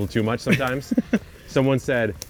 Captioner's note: laughing